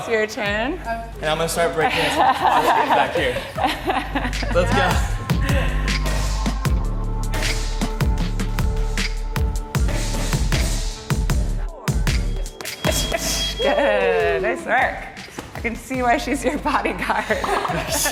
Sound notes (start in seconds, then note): 5.5 bouncy, bass thumping music; 5.5 hushes